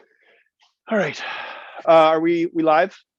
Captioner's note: sighs